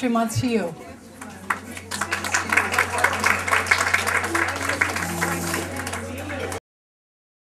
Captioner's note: applause